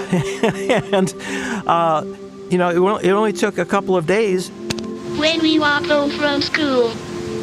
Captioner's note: laughs